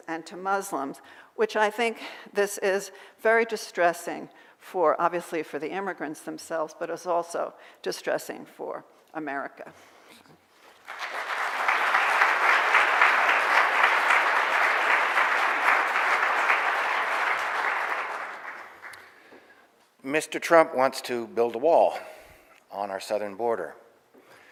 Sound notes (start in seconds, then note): 10.6 audience applauding